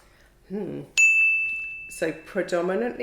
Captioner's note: bell dings